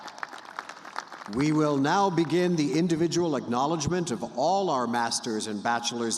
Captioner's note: cheers and applause